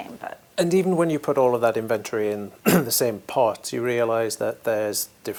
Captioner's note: cough